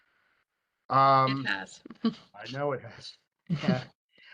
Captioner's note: chuckles